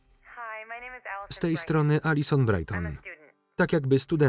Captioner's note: voiceover